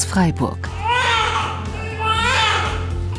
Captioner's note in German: Schreien